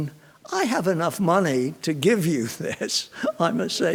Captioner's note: chuckles